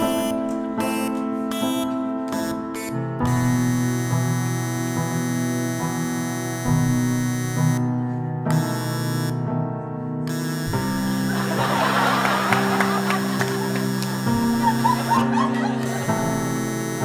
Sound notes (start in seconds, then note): 11.2 audience laughter